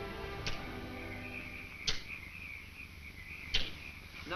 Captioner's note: insects chirp